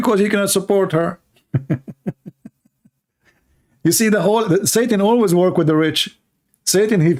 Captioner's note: Ketawa